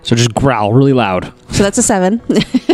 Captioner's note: laughs